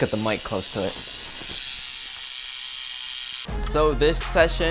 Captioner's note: bike tire clicking